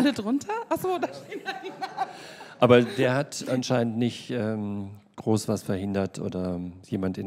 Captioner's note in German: Lachen; lacht